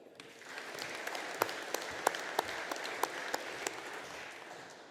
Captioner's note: audience applauding